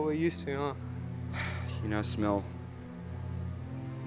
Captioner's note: sigh